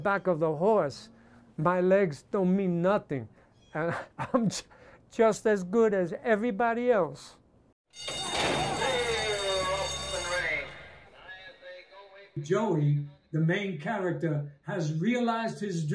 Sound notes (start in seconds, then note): 3.7 chuckles; 8.0 horse racing start bell rings - announcer over PA